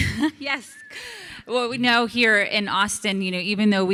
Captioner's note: laughs